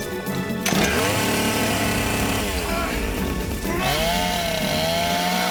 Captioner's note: chainsaw running